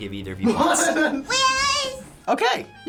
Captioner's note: laughs